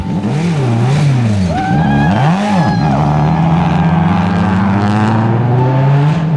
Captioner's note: engine revs; cheers